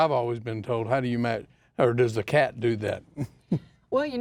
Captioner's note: laughs